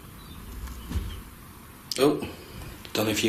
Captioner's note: soft thudding